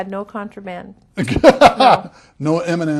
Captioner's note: laughter